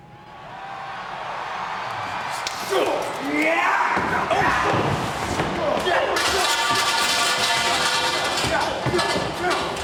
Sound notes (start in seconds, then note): 0.0 audience cheers; 5.8 pipes clank